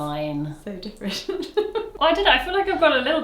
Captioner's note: laughs